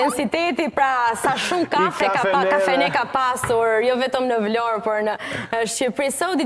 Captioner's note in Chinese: 笑聲